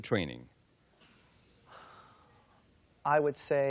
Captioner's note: sighs